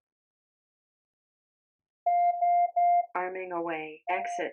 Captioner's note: beeping